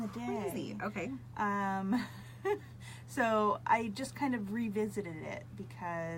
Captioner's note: laughs